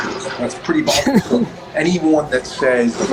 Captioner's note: laughs